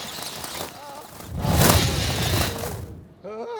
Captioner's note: screaming continues; whooshing; Moth Napper calms, makes inquisitive noises